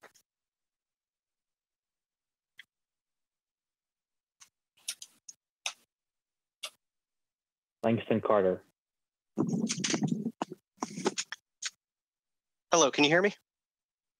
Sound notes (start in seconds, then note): 10.8 microphone shuffles